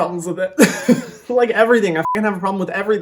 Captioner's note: laughing; beep